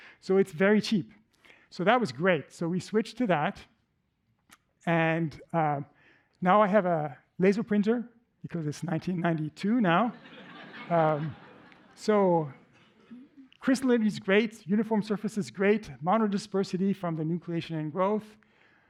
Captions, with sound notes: So it's very cheap. So that was great. So we switched to that. And now I have a laser printer because it's 1992 now. [LAUGHTER] So crystallinity is great, uniform surface is great, monodispersity from the nucleation and growth,